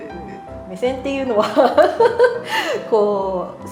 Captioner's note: laughing